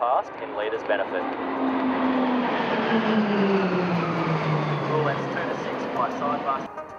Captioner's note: PC21 aircraft sounds